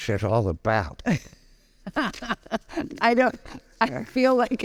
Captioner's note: laughing